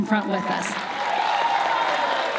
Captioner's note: applause